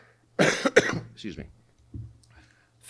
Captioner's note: coughing